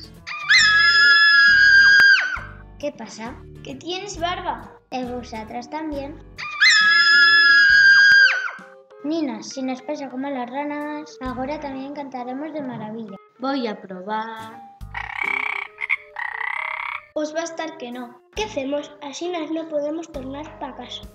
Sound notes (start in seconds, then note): 14.8 croaking like a frog